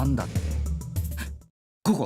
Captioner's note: gasp